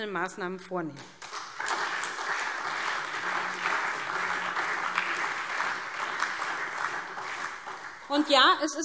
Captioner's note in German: Beifall SPD und Freie Demokraten